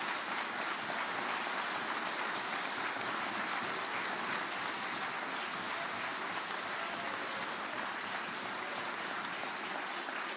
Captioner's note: applause